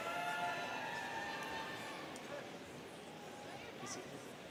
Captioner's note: students cheering